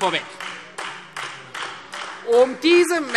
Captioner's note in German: Beifall Freie Demokraten und AfD